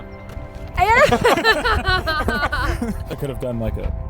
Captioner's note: all laughing